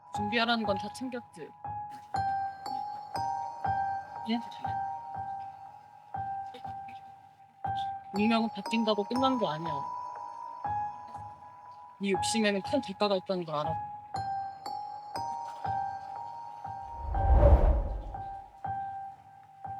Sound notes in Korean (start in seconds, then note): 16.9 바람소리